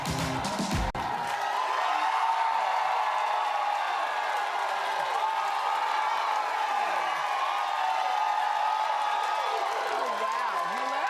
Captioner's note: cheering